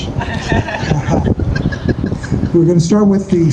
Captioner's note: laughter